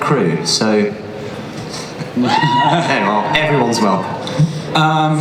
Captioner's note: cheers from audience